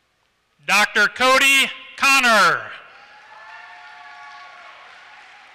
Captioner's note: applause